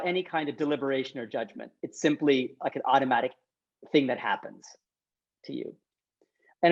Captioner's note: none